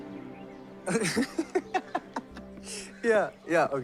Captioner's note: Gautam giggling